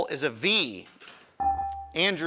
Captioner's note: buzzer chimes